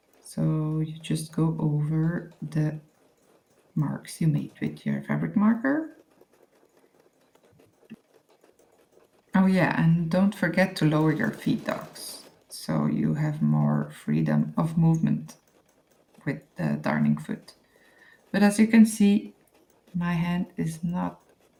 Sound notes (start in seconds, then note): 6.6 darning foot whirring